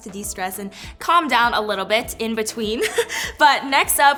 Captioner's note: giggles